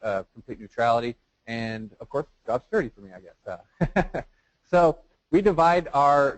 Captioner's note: chuckles